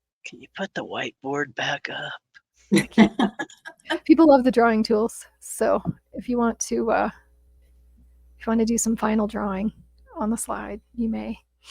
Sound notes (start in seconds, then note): 2.7 participants laughing